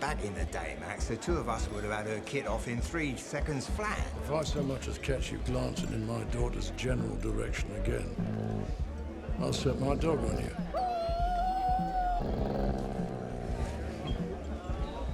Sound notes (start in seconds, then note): 10.0 dog whines; 10.8 dog growling; 12.9 dog growls